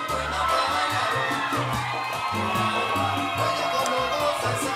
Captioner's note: audience cheering